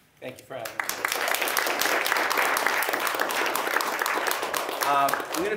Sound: applause

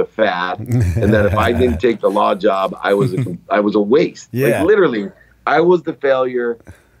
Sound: chuckle

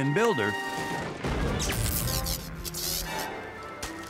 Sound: zap

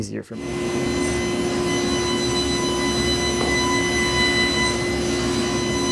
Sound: table-saw cutting wood

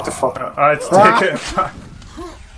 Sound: laughing

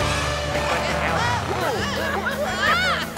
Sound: yelling

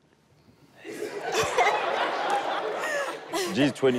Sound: all laughing

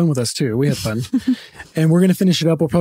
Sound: laughing

